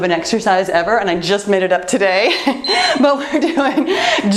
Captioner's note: timer beeps